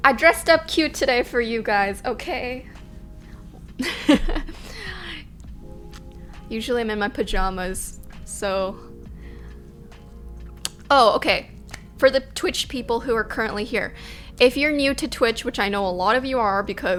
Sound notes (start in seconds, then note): 3.8 laughs